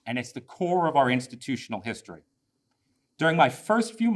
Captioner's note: none